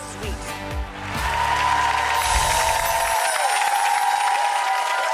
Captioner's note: audience cheering